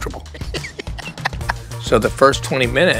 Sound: laughing

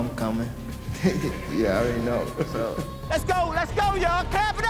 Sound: laughs

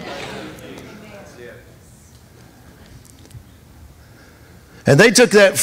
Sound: congregation chattering

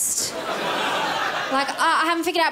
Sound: crowd laughs

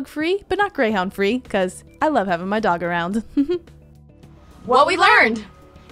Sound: chuckling

